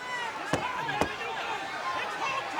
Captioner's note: crowd cheering; hand smacking